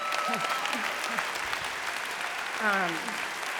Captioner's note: applause